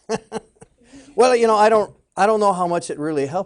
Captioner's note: laughing